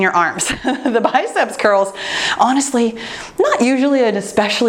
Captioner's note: laughs